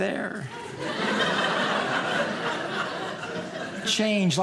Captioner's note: audience laughing